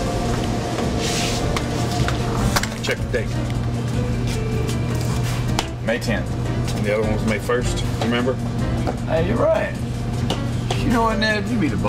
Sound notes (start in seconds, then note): none